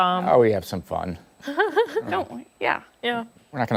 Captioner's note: laughter